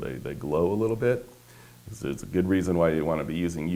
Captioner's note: none